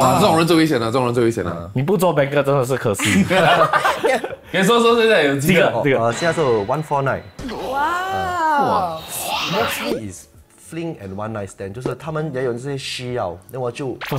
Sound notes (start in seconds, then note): 4.1 laughs; 8.4 gasps